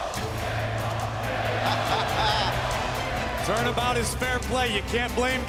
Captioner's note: fans chanting